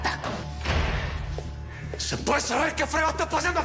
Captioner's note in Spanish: Portazo